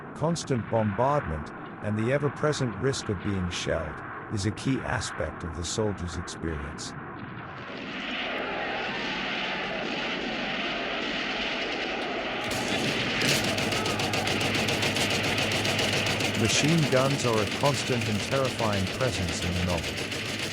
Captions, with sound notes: constant bombardment and the ever present risk of being shelled, is a key aspect of the soldier's experience. [shells exploding] [machine gunfire] Machine guns are a constant and terrifying presence in the novel.